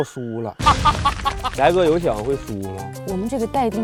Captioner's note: laughs